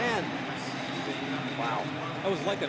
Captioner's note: pa announcement